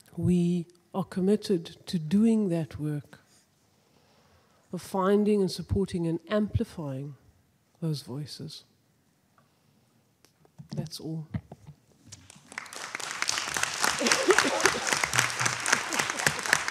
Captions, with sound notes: we are committed to doing that work, of finding and supporting and amplifying those voices. That's all. (audience applauding)